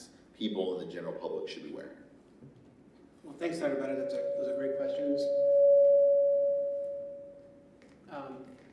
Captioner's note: mic feedback